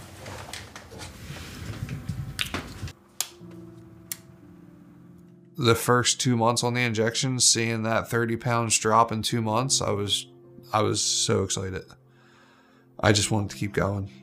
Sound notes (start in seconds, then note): 2.7 injector pen clicks